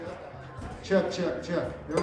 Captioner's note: voice over speakers